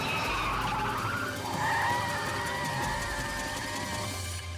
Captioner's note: tires squeal